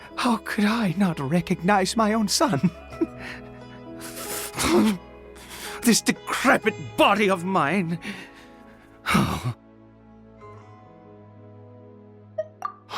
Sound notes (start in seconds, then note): 9.0 sigh